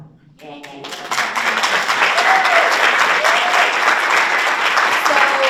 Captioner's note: audience applauds and cheers